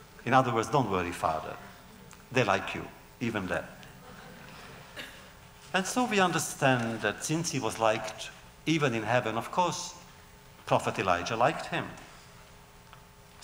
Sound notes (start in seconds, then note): 3.9 laughter